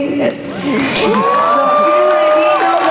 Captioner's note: cheers and applause